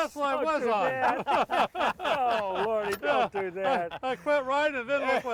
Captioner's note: all laughing